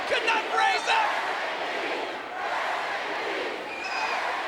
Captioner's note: crowd yelling